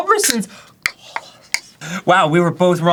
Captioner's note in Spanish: susurro tembloroso